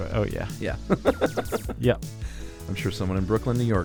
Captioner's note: chuckling